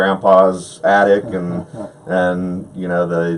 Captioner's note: laughs